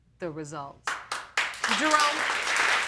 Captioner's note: audience clapping